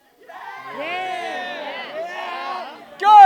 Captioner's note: cheering